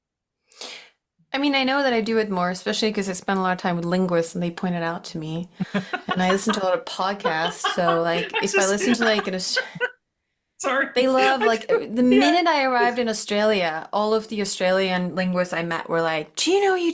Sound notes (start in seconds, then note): 5.6 laughs